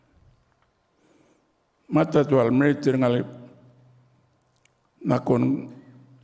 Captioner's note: continues to speak native language